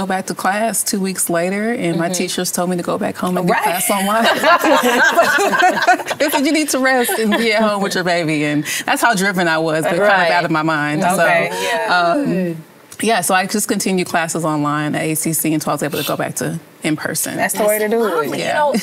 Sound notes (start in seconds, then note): 3.8 laughter